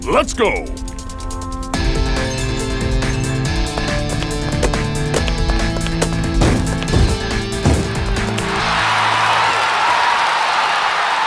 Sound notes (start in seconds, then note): 3.8 hands smacking; 6.5 shoes thumping; 8.4 crowd cheering